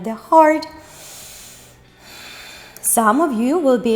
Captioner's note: inhales and exhales